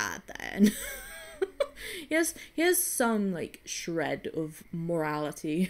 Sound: wheezes

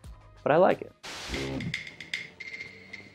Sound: static noise; dramatic music

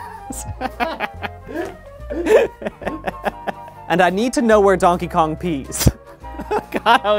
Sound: laughing

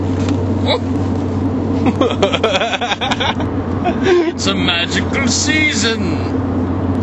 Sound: laughs harder

